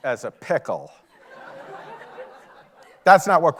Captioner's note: audience laughing